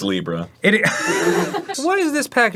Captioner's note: wheeze laughs